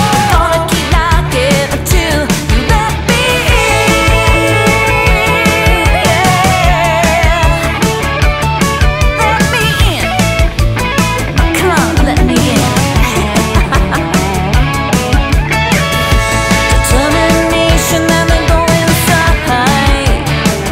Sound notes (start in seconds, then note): 13.0 laughter